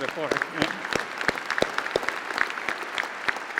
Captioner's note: applause